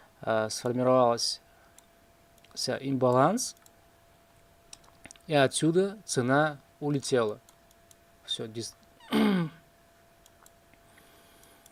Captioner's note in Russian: откашливается